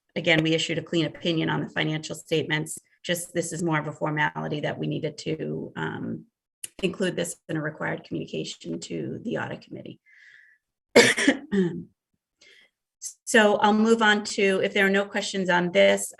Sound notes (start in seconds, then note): 10.9 coughs